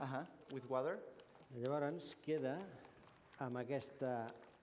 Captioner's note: non-english speech; non-english speech